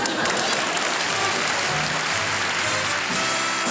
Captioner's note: applause